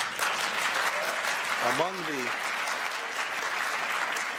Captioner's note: applause